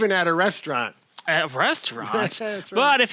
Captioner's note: man laughs